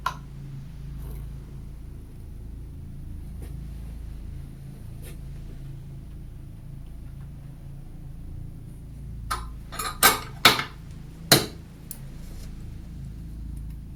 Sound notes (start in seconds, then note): 9.7 scissors clatter